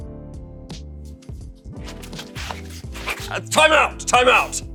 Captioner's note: shoes skirting on pavement